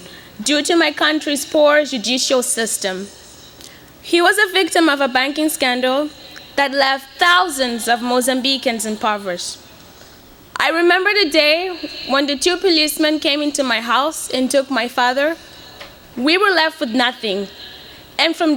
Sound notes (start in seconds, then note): none